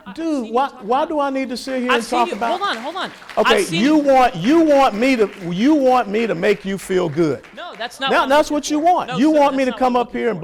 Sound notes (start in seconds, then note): 2.7 audience applause